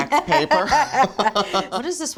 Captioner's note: both laughing